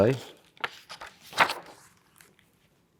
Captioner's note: pages rustling